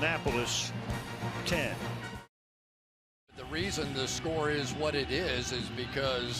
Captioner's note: none